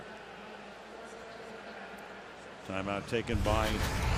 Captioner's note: pa announcement